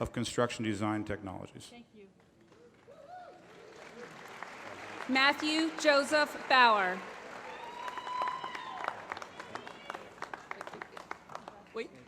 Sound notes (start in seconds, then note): 3.5 applause